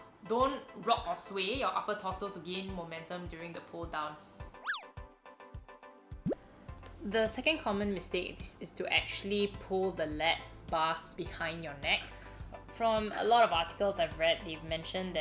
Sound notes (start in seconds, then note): 4.6 low whistling; 6.4 low blooping